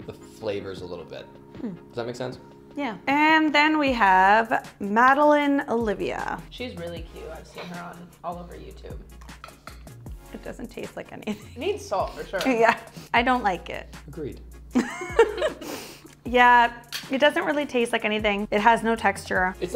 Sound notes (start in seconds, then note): 14.8 laughing